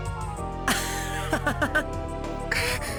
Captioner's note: laugh